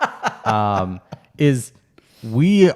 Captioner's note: laughs